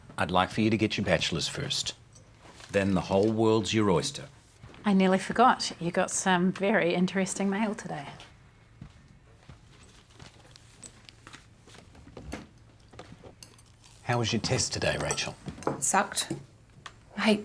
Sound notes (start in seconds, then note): none